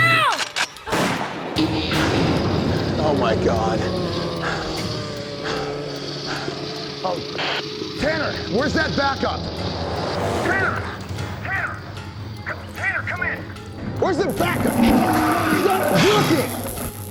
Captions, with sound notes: [ RIFLE COCKS, GUNSHOT ] OH, MY GOD. [ MOANING ] TANNER, WHERE'S THAT BACKUP? Tanner! Tanner! Tanner, come in! WHERE'S THE BACKUP?! [ ELECTRICITY CRACKLES ] IT'S NOT WORKING!